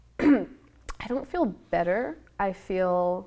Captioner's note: clears throat